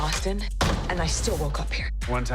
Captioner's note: door slams